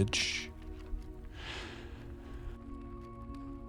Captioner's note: sighs